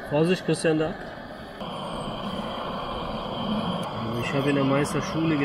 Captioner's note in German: rauschen